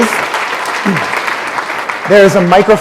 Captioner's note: applause